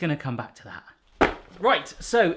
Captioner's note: thud